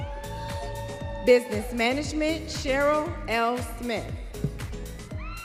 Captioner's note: students cheering